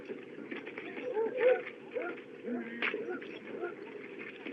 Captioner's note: dog Barking